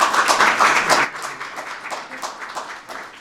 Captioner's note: applause